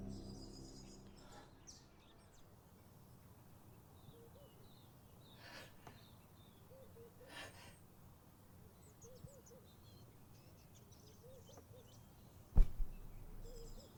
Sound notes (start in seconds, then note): 0.0 birds chirping